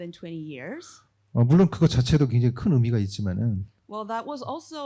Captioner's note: speaking korean